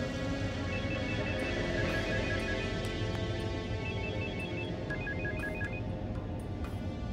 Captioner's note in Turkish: Telefon Çalıyor